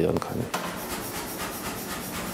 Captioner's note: cheeping rattling